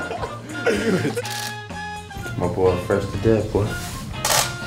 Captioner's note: players laughing; camera clicking